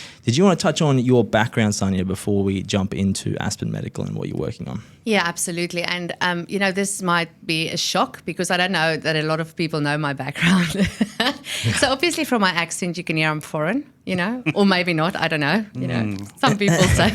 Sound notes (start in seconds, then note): 11.4 laughs